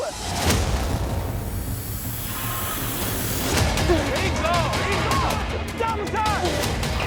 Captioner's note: dramatic music; crowd cheering